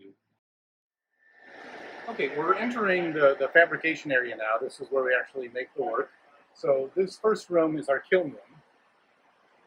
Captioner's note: mechanical sounds in background